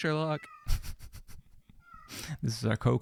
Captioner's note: laughing